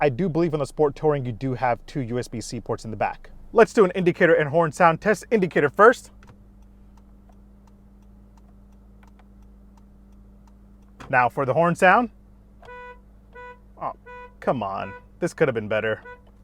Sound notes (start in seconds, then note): 6.1 vehicle blinker ticks; 12.6 weak horn honking